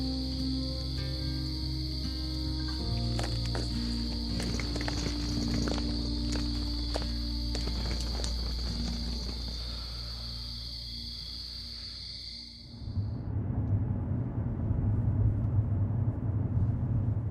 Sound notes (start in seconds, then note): 4.5 luggage wheels rattle; 12.9 traffic whirs